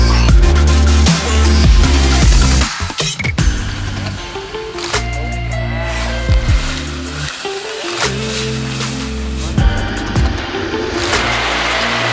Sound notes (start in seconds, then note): 7.4 board scraping against ground